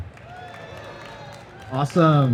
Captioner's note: audience cheering